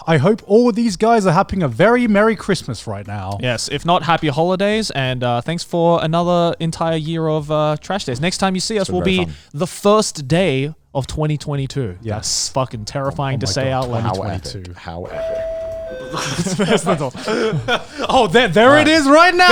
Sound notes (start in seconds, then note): 15.1 beep; 16.0 crew and group laughs